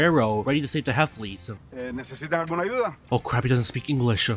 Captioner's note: Spanish